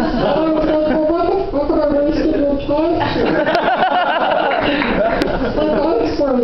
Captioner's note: laughter